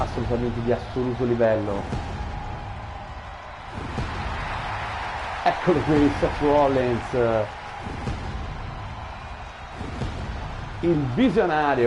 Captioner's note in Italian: Applauso